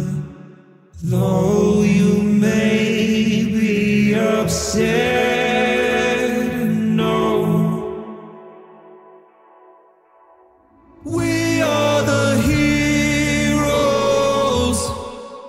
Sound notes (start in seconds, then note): 8.5 echo